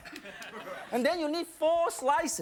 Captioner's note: audience laughs